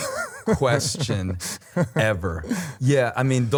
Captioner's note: laughter